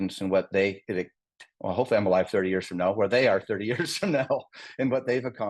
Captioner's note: laugh